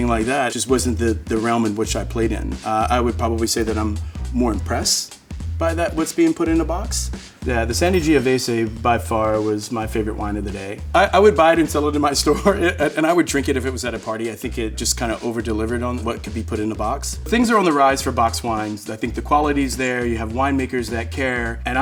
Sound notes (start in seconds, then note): 7.8 bell dinging; 12.0 chuckling